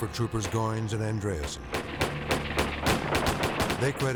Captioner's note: guns bang